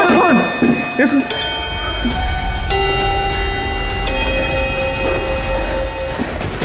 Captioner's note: the bell rings suddenly